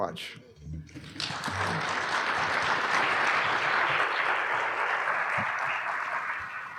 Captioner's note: applause